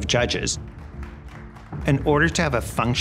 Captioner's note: people applauding